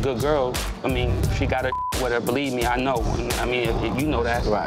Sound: beep

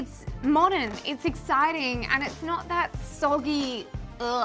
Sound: groans

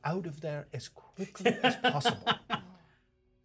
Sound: speaker laughs

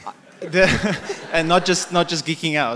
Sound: audience laughter

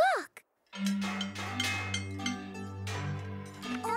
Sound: various bangs and pings from tools

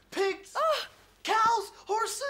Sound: gasping

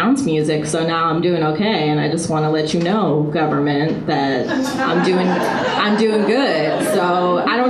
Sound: audience laughter

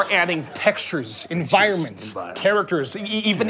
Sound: quietly

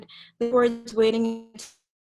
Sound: voice distorted

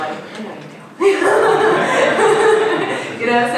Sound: laughing

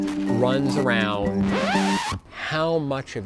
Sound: needle zips across record

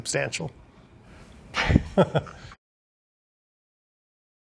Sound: chuckling

